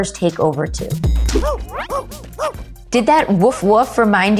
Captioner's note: Monchi barking